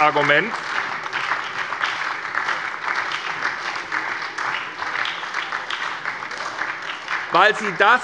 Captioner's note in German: Beifall bei der SPD